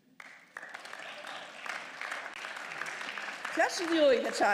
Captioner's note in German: Beifall